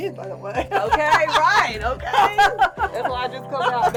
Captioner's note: laughter